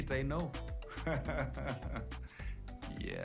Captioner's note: laughs